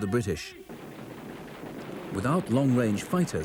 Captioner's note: gun clunks